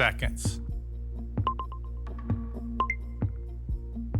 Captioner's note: watch chimes